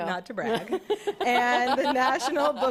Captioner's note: laughter